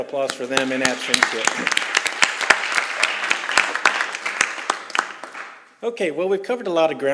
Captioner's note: applause